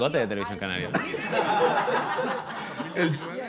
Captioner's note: laughter